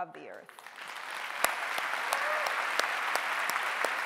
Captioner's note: clapping